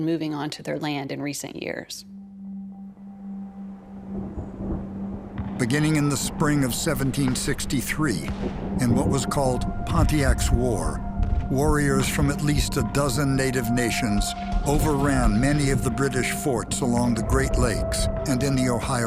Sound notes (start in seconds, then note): 4.3 thunder